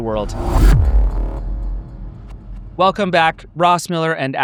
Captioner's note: whooshing sound effect